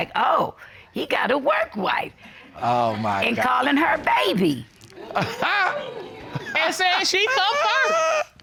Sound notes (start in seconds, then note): 5.1 chuckles